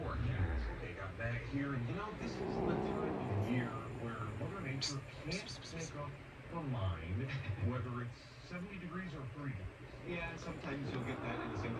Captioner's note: Caprice begins growling